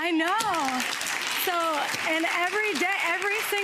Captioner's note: audience applauds